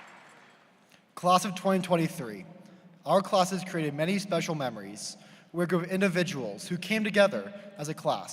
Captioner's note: cheers and applause